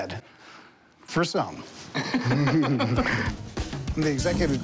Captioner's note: laughter